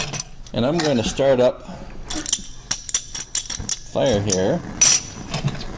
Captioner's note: stirring